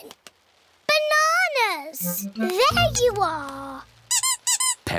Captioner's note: squeaking